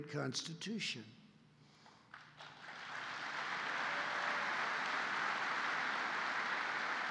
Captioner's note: applause